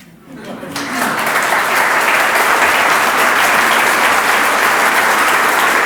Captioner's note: audience laughs; audience applauds